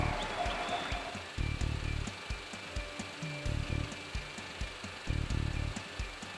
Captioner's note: film projector whirring